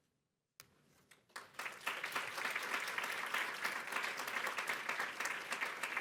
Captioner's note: applause